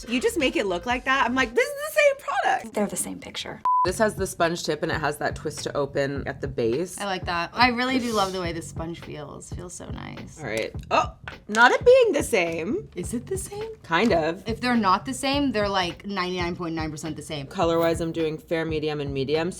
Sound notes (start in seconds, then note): 3.6 beeping